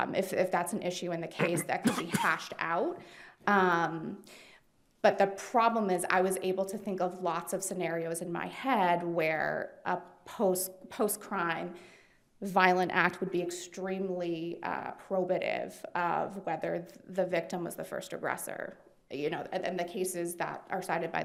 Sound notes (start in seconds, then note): 1.4 attendee coughing